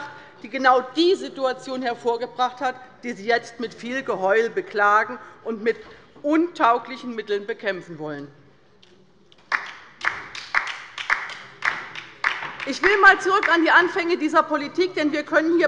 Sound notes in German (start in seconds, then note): 9.4 Beifall bei der LINKEN